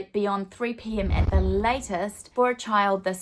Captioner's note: swooshing